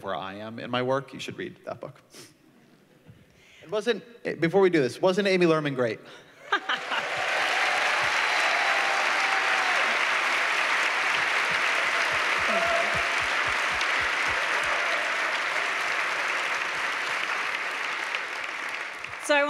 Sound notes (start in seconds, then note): 6.4 laughter; 6.5 applause